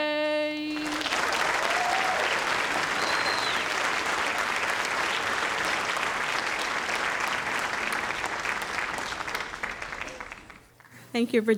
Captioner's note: audience applauding